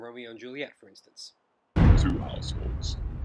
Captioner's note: thunder and Rain